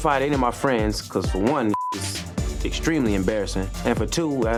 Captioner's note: beep